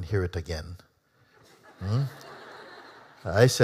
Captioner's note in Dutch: publiek lacht